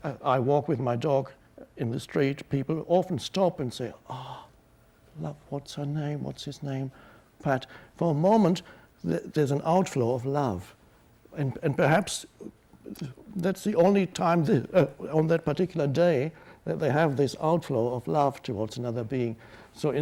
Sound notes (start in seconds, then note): none